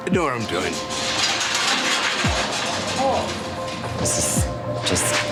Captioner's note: gate rattling